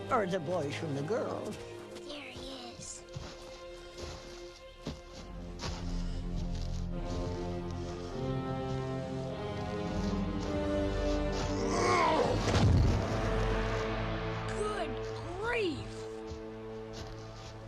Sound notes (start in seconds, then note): 3.3 footsteps rustling; 6.1 dramatic plodding music; 11.6 giant grunts; 12.3 log booms